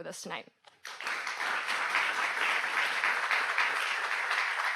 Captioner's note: audience applauds